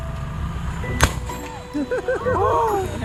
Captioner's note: loud bang